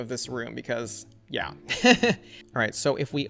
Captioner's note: laughs